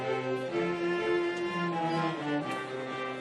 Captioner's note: none